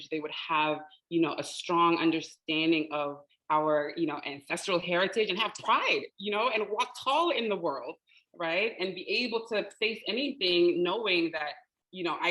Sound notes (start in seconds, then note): none